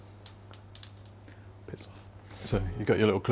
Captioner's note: whispers